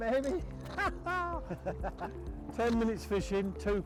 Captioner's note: laughing